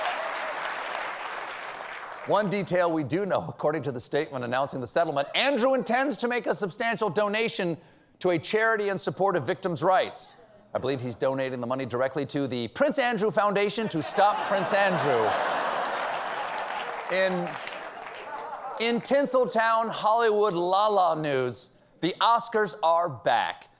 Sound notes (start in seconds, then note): 13.9 laughter; 14.4 applause